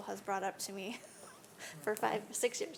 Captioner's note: none